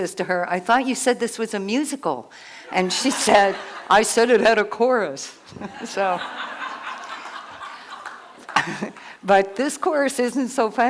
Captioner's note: laughter